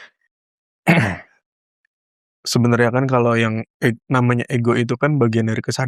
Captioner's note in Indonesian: berdehem